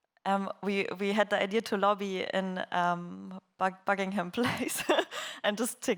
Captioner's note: laughs